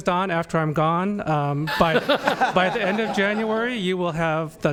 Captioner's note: laughter